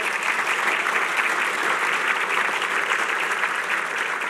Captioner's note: applause